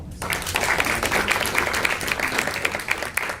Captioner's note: applause